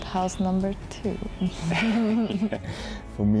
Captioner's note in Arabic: كلاهما يضحك